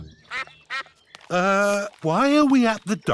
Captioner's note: sucks quacking